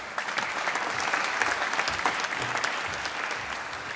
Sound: applause

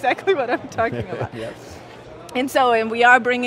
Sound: laughs

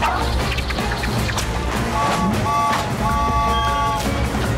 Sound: tooting

